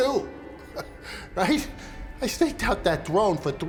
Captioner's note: narrator laughs